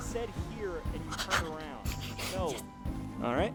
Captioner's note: chuckles